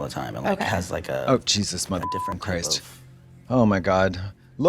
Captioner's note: beep